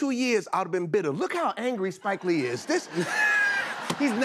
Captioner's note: laughter